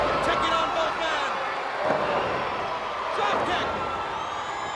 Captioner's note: blows thudding